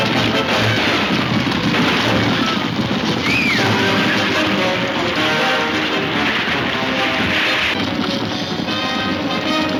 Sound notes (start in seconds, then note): 2.1 Mary screaming; 6.0 water splashes; 7.7 horses hooves thundering